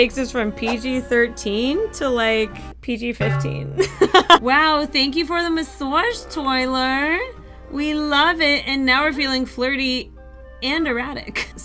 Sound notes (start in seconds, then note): 3.8 laughs